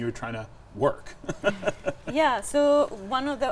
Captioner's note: chuckling